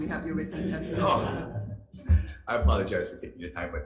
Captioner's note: attendees laughing